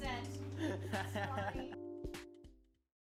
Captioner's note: man laughs